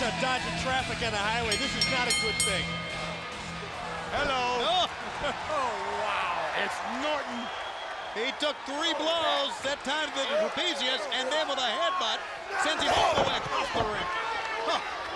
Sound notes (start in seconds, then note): 1.4 bell chimes